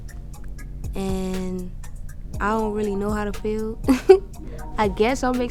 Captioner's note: laughs